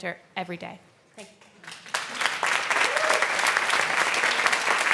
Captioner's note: applause